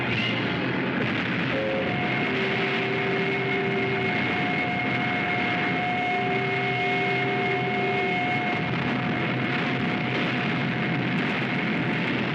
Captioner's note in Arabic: إطلاق المدفعية